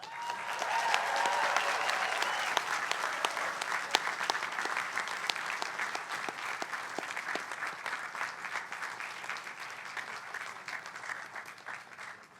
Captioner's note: applause